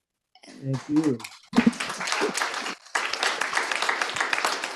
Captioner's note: crowd applauding